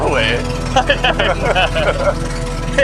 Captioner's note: laughs